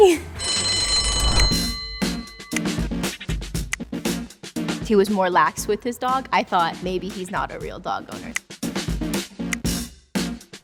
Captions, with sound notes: (bell rings) (upbeat music) - He was more laxed with his dog. I thought maybe he's not a real dog owner.